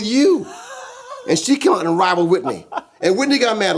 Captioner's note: laughing